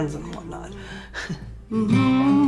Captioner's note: laughs